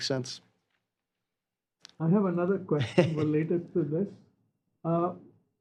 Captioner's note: laughter